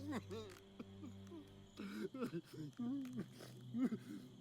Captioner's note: Hugo crying